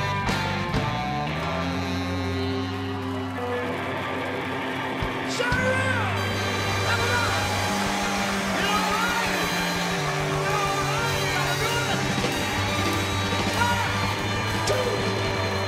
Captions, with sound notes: (audience cheering) (shouting) One, two, one, two.